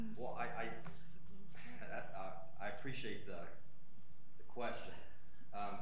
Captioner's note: laughing